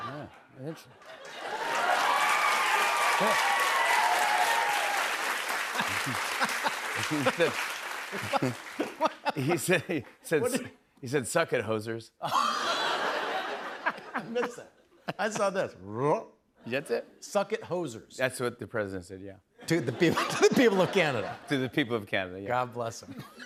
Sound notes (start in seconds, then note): 1.4 cheers and applause; 5.8 laughing; 12.2 laughter; 23.0 laughter